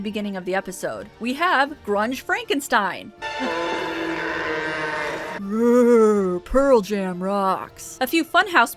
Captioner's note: he groans